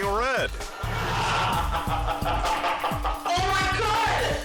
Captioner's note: boyfriend laughing